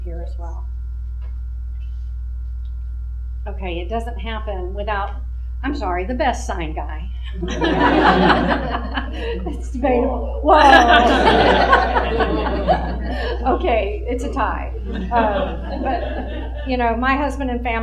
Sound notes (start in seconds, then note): 10.7 laughter